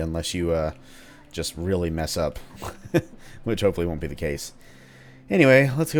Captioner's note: chuckles